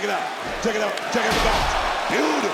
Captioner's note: body thudding